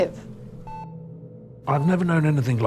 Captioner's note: monitor beeping